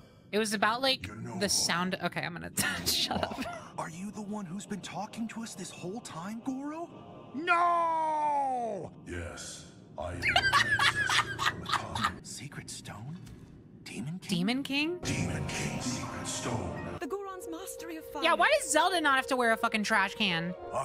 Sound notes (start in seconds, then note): 2.6 laughter; 10.2 laughter